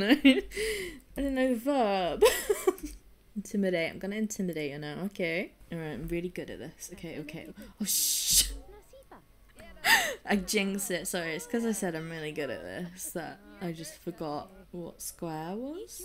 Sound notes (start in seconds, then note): 9.5 laughing; 9.8 deep breath